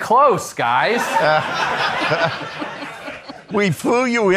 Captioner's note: attendees laughing